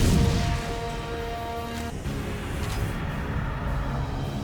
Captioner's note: gun firing; dramatic music; dramatic music